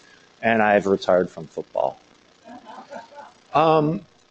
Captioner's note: laughter